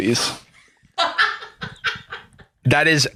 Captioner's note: laughs